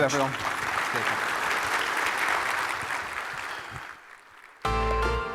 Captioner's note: audience clapping; upbeat music